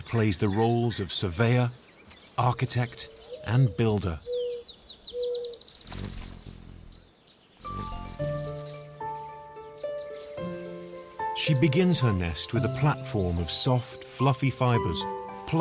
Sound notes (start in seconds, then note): 4.4 birds chirping; 5.5 hummingbird buzzing; 7.6 gentle orchestral music